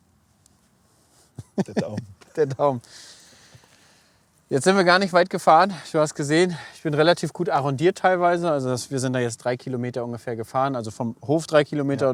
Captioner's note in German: lacht